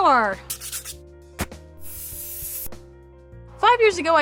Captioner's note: sketching noise